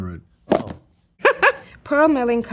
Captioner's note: laughs